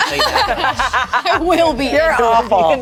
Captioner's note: group laughs